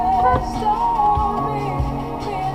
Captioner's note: beep